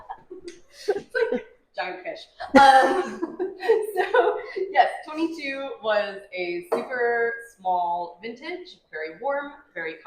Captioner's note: laughing